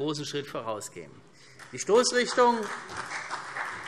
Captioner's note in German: Beifall CDU